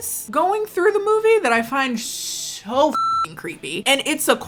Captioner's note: beep